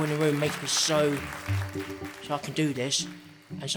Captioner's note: audience clapping